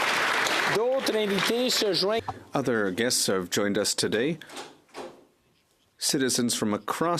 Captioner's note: applause